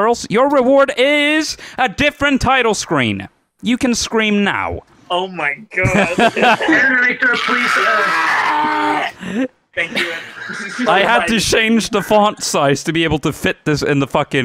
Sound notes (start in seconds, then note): 7.2 screams